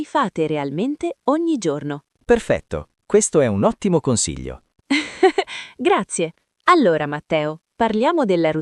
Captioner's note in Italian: risate